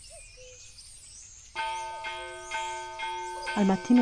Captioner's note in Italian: Suono di campane da pericolo